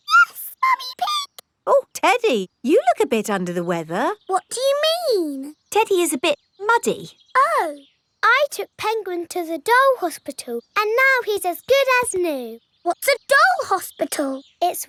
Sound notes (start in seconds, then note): 0.1 in high-pitched voice; 4.5 in normal voice